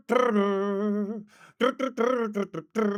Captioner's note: humming